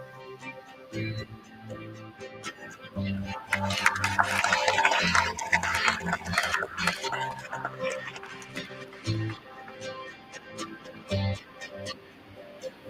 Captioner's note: applause